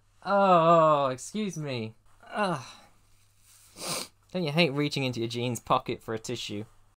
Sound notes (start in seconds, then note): 3.5 sniff